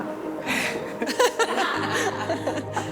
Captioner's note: laughs